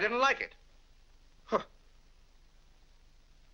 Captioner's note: scoffs